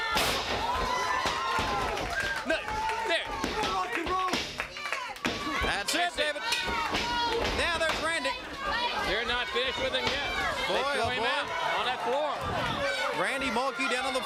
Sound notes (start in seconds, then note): 0.2 crowd cheering; 6.7 crowd chatter